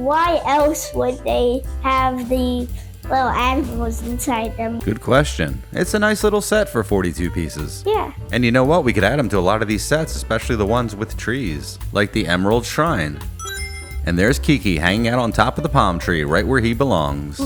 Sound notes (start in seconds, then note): 13.4 Sonic Ring Chime